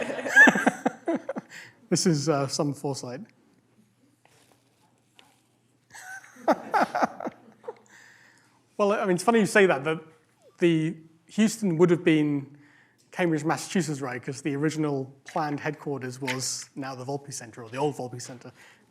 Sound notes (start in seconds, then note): 0.3 laughs; 5.9 laughter